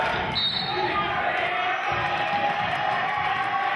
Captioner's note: whistling; cheering